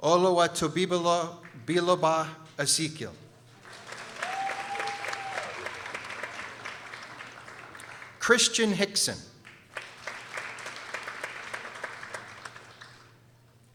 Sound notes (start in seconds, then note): 3.3 people applauding